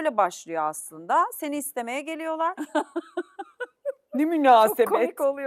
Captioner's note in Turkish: kahkaha